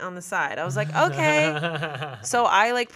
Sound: chuckling

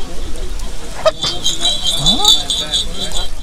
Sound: sneezes

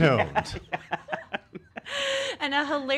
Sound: laughing

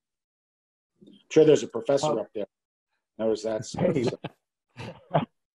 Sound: murmurs

